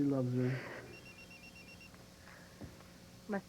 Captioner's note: beeping